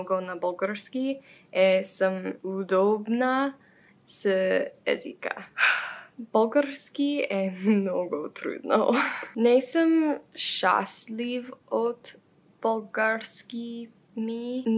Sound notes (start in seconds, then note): 5.6 sigh